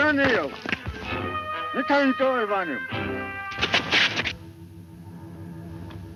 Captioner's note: speaks in foreign language